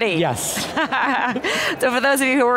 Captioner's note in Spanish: se ríe